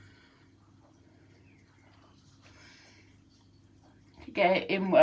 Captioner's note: silence